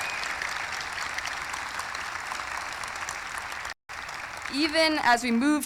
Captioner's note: cheering; applause